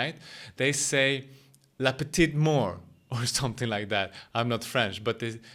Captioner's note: speaks in French